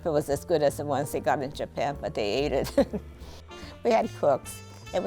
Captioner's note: laughs